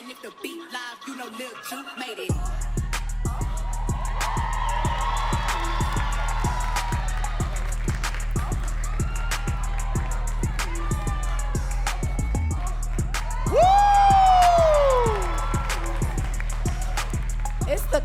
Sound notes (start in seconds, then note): 2.8 rap music beat; 4.4 audience cheering and clapping; 9.4 rap music beat; 16.0 rap music beat